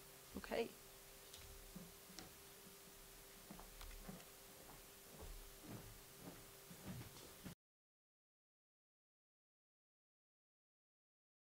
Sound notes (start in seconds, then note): 3.4 printing